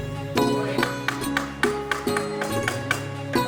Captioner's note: sound of hammer striking nail